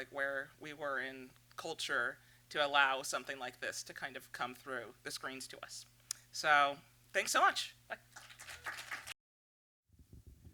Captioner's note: applause